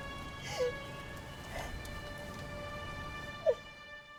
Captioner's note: crying